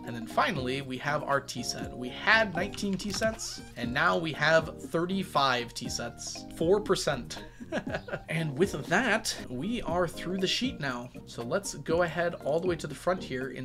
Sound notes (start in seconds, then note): 7.4 laughs